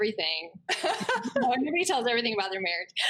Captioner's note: laughs